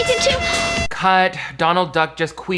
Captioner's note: horn blows